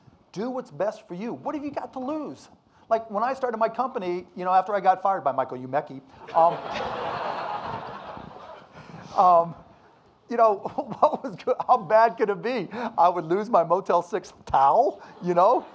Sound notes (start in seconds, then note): 6.2 audience laughing; 11.2 laughs